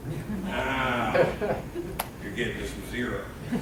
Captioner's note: laughing